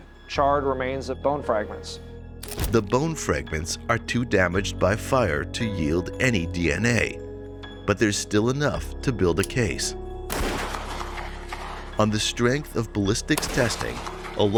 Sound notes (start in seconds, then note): 10.3 gun firing